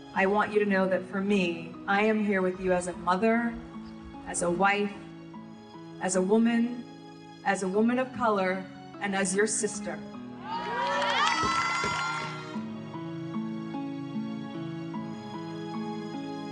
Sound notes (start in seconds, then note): 10.4 audience cheering; 13.6 mellow music